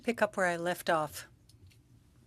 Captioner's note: speaking French